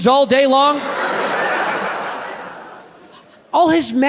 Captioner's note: audience laughs